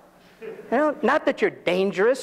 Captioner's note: audience laughs